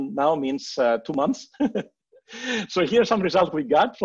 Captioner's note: chuckles